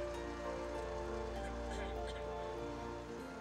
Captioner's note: man 1 clears throat